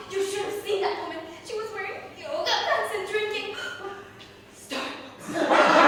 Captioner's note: gasps